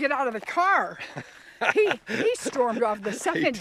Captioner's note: laughing